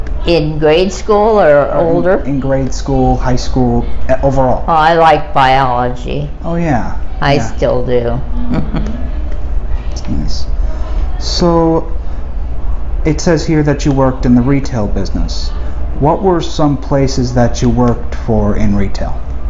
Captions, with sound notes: M-“In grade school or older?” S-“In grade school, high school, overall.” M-“I liked biology.” S-“Oh, yea. Yea.” M-“I still do.” (chuckles) S-“That’s nice. So, it says here that you worked in the retail business. What were some places that you worked for in retail?”